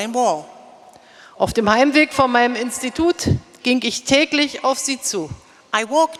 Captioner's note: speaking in German